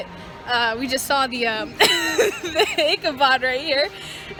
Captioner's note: laughs